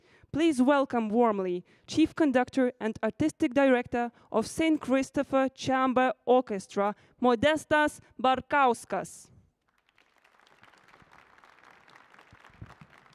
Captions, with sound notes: Please welcome warmly chief conductor and artistic director of St. Christopher Chamber Orchestra Modestas Bukauskas. (applause)